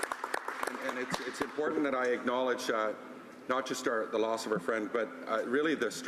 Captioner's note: some Applause